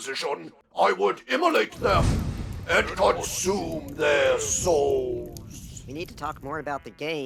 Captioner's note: unholy flame ignites